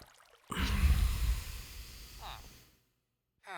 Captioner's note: exasperated sigh